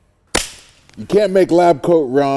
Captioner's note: slap